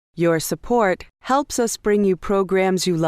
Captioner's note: voiceover